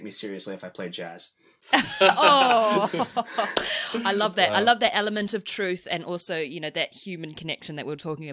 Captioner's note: laughs